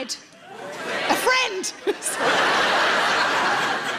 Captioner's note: giggles; audience laughs